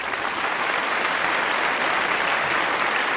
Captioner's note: applause